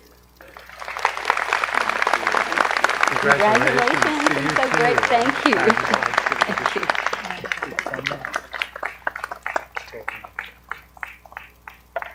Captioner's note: appaluse